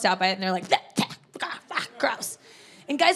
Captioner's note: spitting sound effects